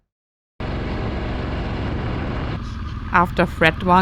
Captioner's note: motors roaring